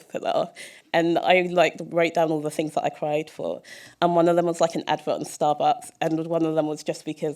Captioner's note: none